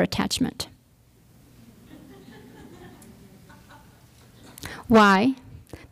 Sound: laughter

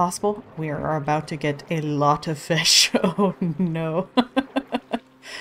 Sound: laughs

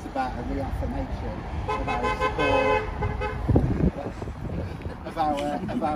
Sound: car toots in support

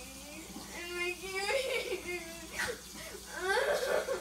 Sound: sobbing

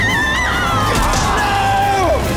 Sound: screaming

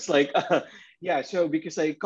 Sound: laughs

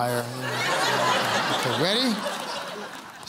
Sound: laughter

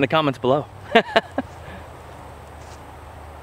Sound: laughs

